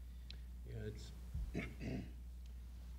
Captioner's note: clears throat